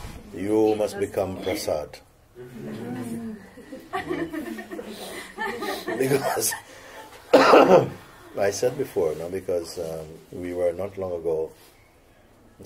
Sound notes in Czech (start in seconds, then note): 2.4 Smích